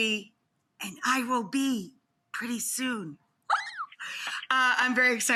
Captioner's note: squeals